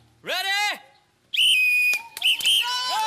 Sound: whistle blows

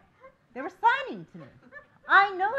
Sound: laughing

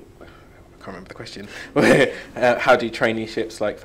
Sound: chuckles

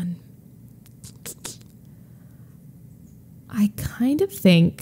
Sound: clicks tongue

